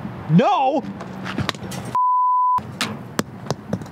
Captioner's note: 8 Ball clatters along the ground